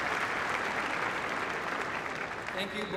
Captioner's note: applause